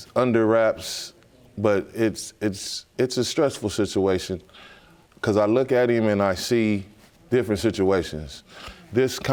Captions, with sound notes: is under wraps (STAMMERING) but it's a stressful situation 'cause I look at him and I see different situations.